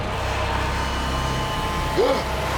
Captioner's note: John gasping